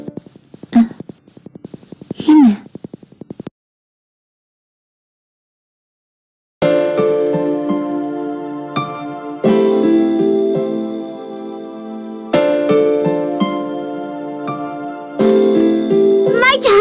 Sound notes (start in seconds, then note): none